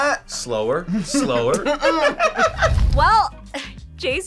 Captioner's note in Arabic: يضحك